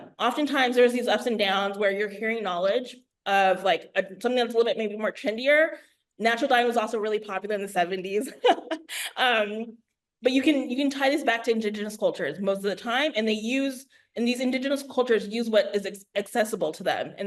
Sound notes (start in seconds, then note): 8.4 laughs